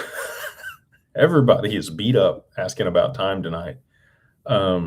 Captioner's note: laughter